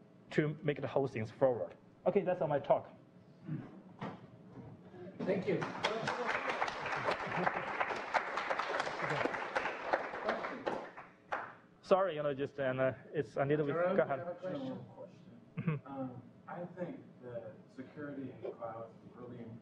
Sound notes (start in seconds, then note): 3.4 pause; 5.5 clapping